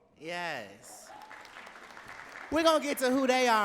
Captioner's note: audience cheering and clapping